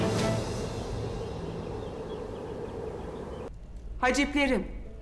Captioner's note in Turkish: Kuş cıvıltısı sesleri